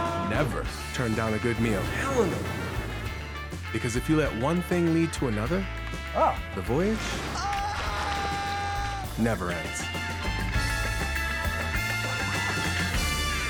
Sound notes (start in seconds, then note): 7.3 screaming; 9.6 lively salsa music